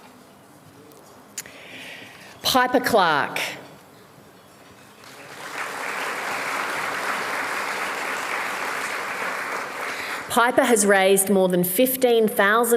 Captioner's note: applause